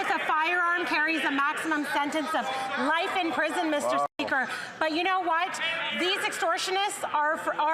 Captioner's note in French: voix de l'interprète